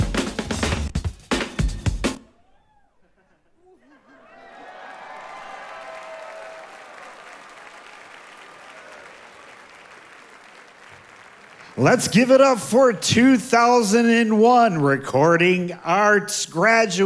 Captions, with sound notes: (audience applauding) - Let's give it up for 2001 Recording Arts graduate,